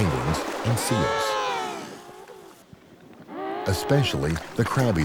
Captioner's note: penguins vocalizing